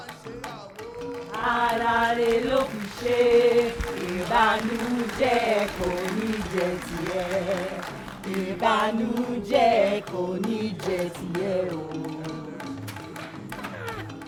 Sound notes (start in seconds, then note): 6.3 applause; 10.0 african music